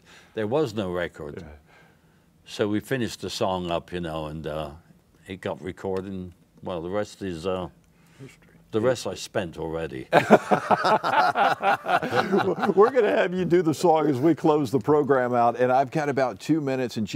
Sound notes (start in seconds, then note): 10.1 laughter